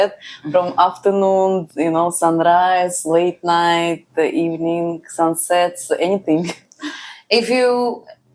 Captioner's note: laughs